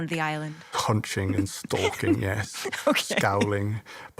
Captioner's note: laughs